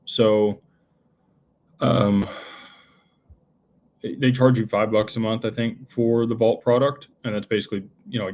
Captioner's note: sighs